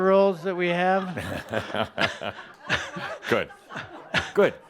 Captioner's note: a few chuckles